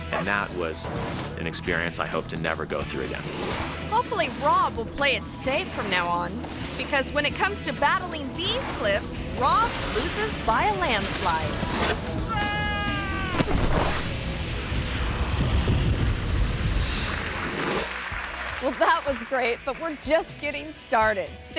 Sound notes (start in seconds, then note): 12.2 screams; 13.2 thuds; 14.0 upbeat music continues; 17.0 screen swooshes; 17.2 crowd applauds; 19.0 giggles